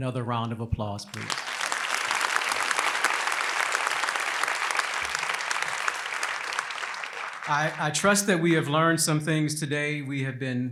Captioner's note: applause